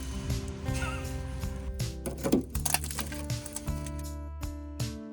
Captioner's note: laughs